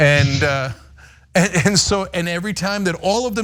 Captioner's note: laugh